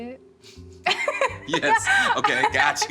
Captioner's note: both laugh